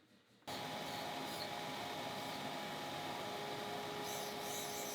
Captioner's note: machine whirring